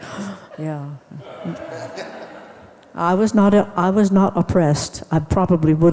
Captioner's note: laughs maniacally; audience laughs